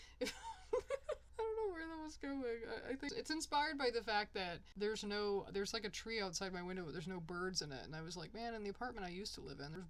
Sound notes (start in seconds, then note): 0.2 fades into laughter; 1.1 in normal voice again